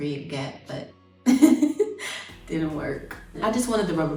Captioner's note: laughs